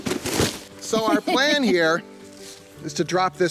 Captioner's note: thumping; woman laughing